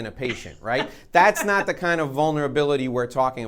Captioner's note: laughing